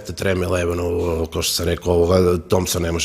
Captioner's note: none